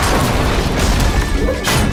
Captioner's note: clang!